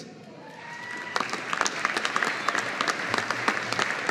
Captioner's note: audience applauding